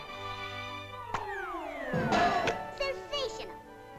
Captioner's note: cartoonish pop sound